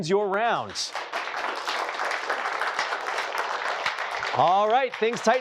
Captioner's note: applause